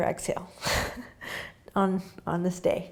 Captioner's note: laughing